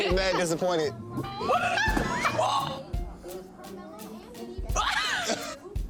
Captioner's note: Iyana laughs; all laughing; all laughing